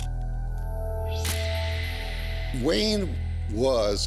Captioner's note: camera shuttle click